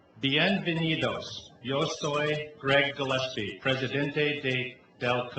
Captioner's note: speaking in foreign language